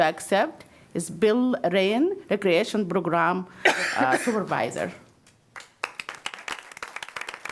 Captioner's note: applause